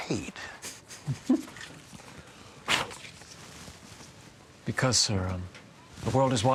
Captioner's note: snickering